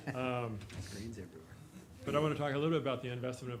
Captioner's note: chuckling